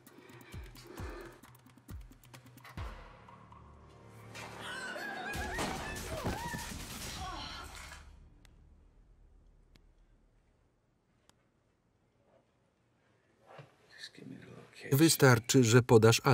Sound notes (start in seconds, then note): 5.6 gun firing